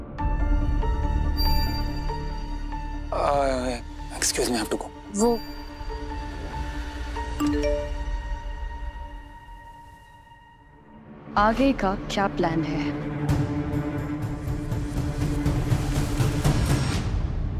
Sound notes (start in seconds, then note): 0.2 pensive music playing; 7.2 phone beeps